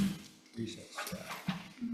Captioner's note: gavel pounds